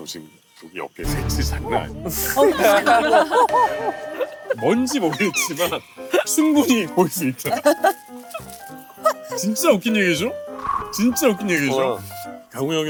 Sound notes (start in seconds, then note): 5.0 crying